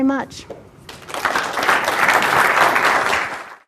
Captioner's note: clapping